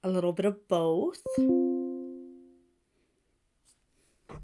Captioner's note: notification dings